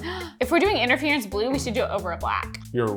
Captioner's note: gasping